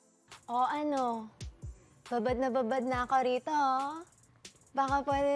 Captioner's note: seductive